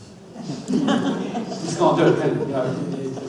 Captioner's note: audience laughs